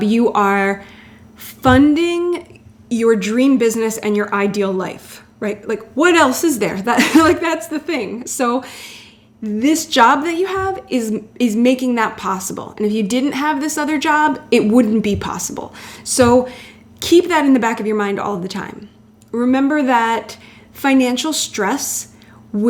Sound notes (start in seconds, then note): 7.0 laughs